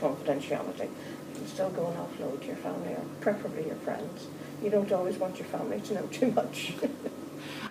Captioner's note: small laugh